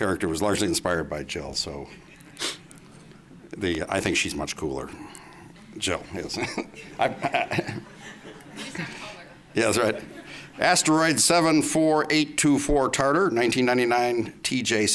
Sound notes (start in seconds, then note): 6.2 laughs